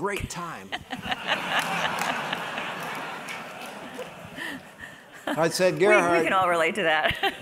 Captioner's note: laugh